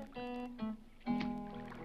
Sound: water splashes

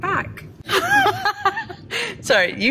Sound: both laugh

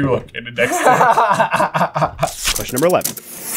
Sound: laughs

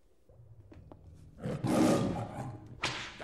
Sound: lion roar

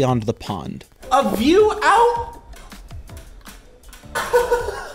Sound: laughing

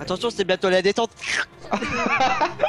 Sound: slirp; laughs

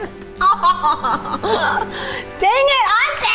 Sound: laughs

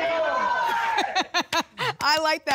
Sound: laughs

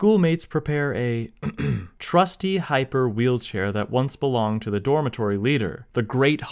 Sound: ahem

